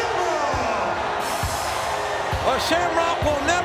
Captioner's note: crowd cheering